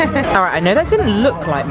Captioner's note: laughs